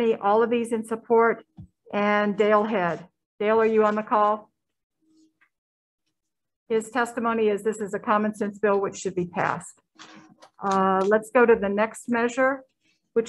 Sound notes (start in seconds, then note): 4.5 silence